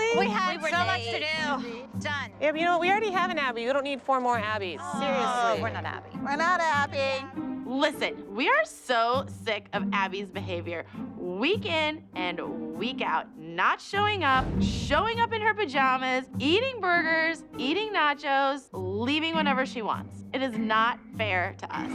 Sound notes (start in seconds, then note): 5.0 groaning